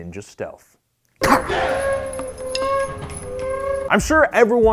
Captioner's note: ninja shout